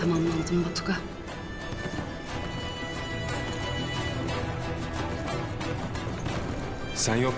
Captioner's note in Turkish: Nal sesleri